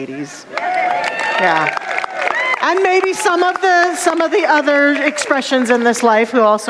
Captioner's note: ladies cheering and applauding